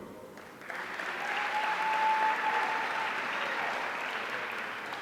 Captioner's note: audience cheering